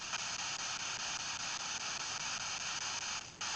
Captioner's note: radio static only